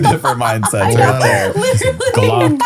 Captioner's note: laughs